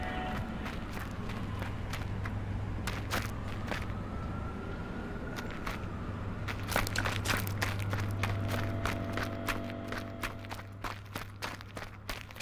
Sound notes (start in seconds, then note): 2.3 footsteps. City noises